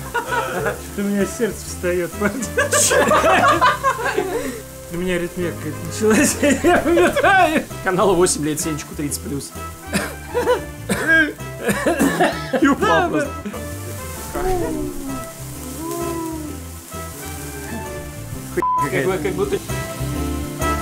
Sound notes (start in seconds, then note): 11.3 coughing